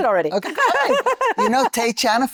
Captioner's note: laughing